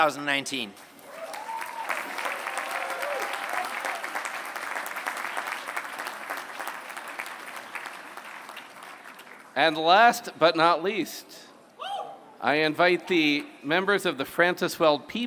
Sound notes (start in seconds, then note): 0.8 applause